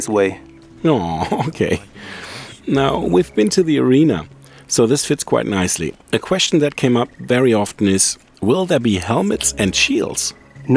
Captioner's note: sighs